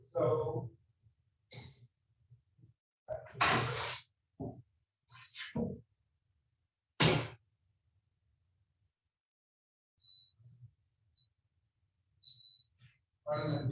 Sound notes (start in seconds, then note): 7.0 door slamming; 10.3 timer beeping